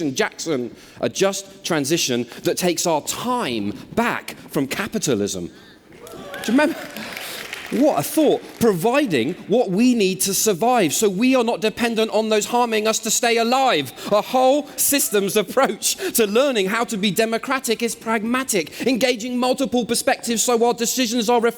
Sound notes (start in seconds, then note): 6.0 applause